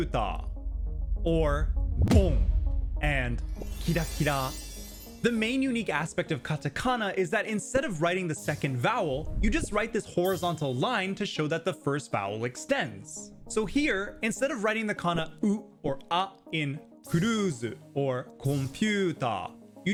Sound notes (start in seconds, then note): 2.0 bang; 3.6 sparkling